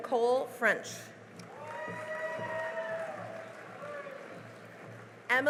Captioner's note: cheering and applause